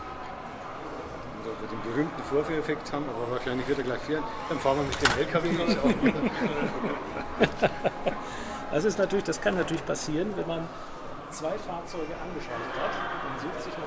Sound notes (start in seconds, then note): 5.5 laugh